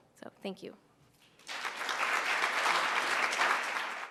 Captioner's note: applause